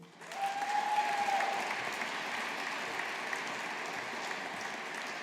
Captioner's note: audience applauding